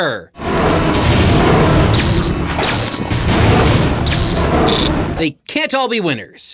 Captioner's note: in-game sound effects